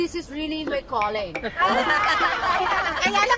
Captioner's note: all laugh